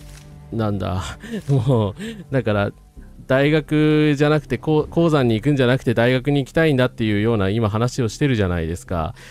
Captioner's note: laughter